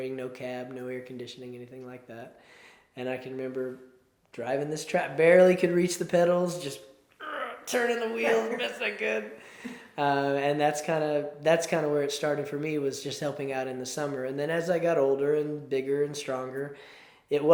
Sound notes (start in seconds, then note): 7.2 groans